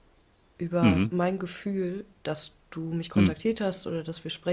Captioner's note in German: räuspern